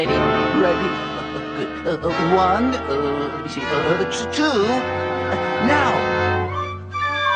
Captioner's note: stammering